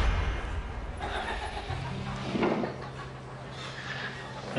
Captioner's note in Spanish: Risas cercanas